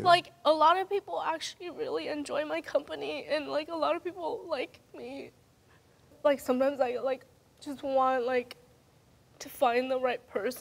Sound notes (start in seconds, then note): none